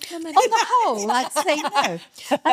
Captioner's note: laughing